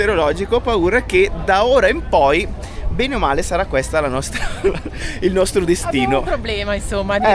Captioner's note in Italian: risate